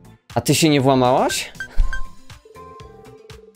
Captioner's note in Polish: bing bing bing